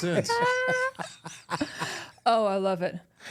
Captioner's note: laughing